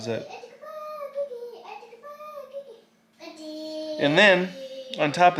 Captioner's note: baby mumbling